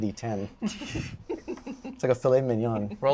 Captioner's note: laughter